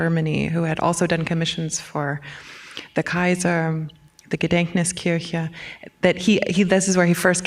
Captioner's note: german